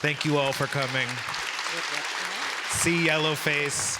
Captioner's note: audience applauding